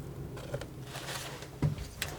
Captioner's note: scratching